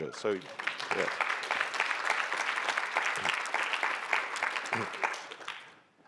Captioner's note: applause